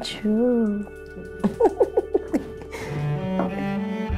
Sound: laughing; bright music

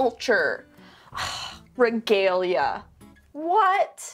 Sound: sighs

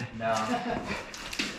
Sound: laughing

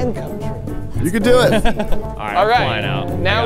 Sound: laughing

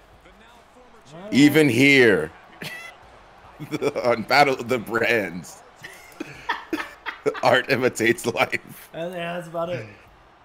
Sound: laugh

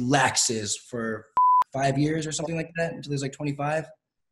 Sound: beep

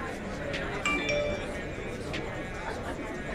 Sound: text alert

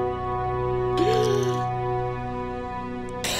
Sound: wheezing; coughing

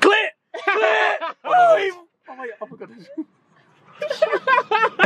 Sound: team mumbling

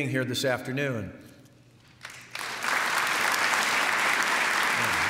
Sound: applause

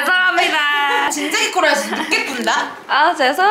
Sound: laughing

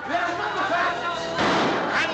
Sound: gunshot

